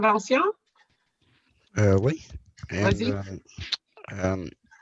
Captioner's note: speaking french